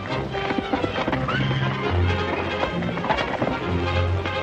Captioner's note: horse neighing